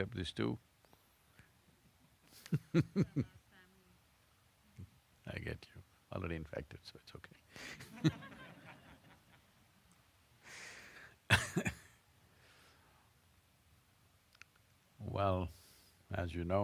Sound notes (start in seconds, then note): 0.4 laughs; 12.7 laughter